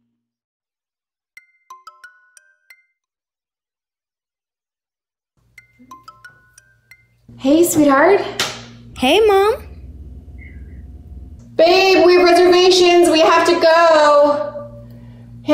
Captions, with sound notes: (cellphone rings) (cellphone rings) - Hey sweetheart. - Hey mom. - Babe, we have reservations. We have to go.